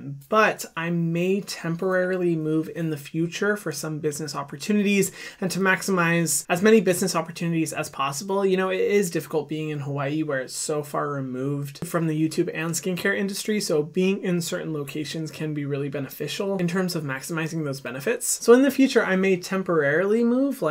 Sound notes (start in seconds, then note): none